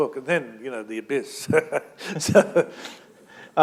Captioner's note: chuckle